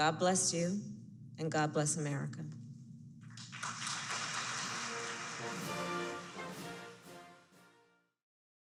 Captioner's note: applause